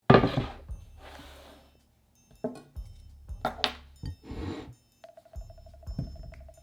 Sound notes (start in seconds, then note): 1.0 board sliding; 2.4 quirky music playing in background throughout video